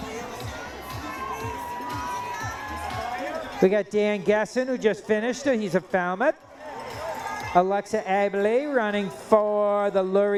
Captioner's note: cheering